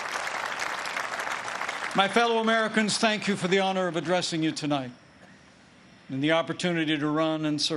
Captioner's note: applause